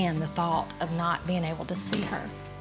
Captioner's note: none